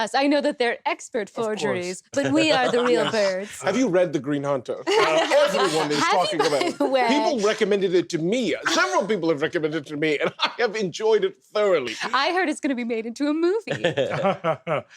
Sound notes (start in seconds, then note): 4.8 laughter; 13.8 Hob laughs the fakest laugh imaginable